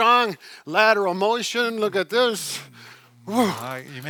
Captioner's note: exhales